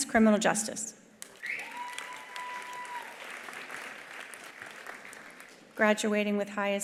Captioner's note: attendees applauding; attendees cheering